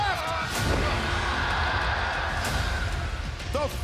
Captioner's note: audience cheers; Kane thuds; tense music